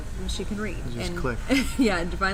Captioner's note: laughs